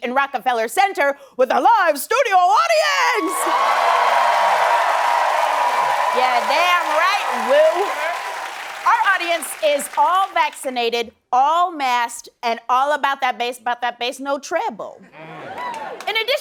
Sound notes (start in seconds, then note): 3.1 cheering and applause